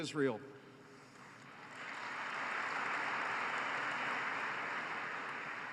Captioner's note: applause